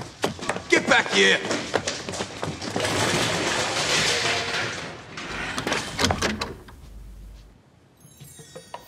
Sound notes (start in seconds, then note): 2.7 clattering